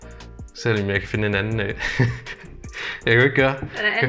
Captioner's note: laughs nervously